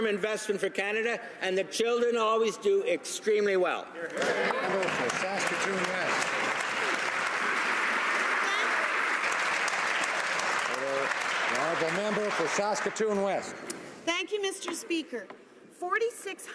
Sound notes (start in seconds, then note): 7.5 some Applause